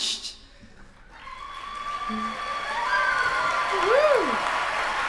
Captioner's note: applause